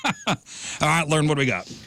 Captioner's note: laughing